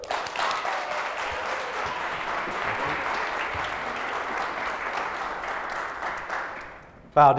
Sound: applause

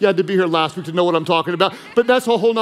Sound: congregants laughing

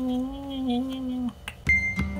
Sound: kiss

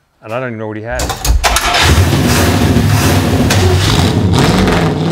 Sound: car engine revving

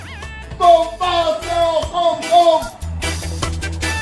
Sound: shouting

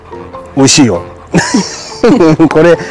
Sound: laughs

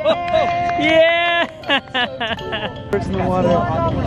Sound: cheering

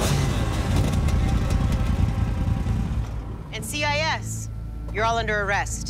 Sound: engines shut off

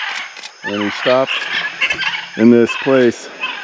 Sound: birds singing

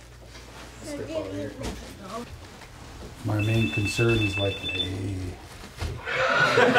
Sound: cell phone rings

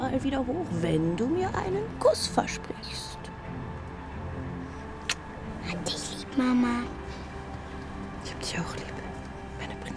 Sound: speaks in foreign language

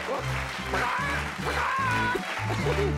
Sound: crows

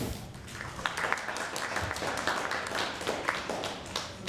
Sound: group applauding

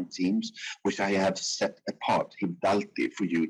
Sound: speaking in foreign language

